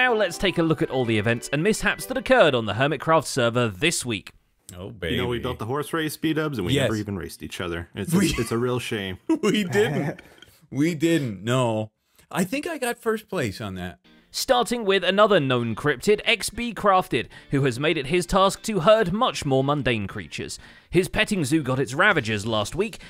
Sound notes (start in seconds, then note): 8.1 chuckles; 9.5 wheeze